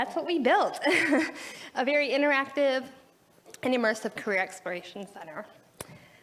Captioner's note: laughs